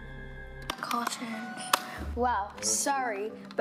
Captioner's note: suspense music; remote clicks